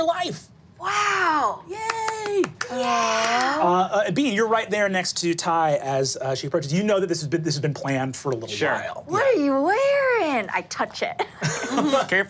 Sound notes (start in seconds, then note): 1.8 claps